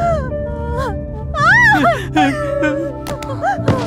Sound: screams

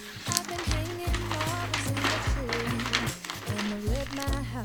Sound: SFX: Rustling

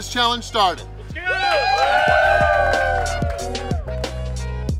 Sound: cheering & Clapping

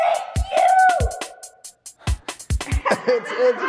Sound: laughter

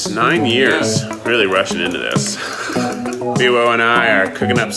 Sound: laughs

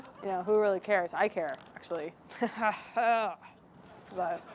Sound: laughs

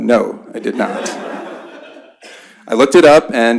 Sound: laughter

